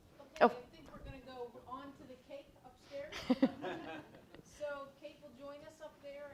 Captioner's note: woman speaks off mic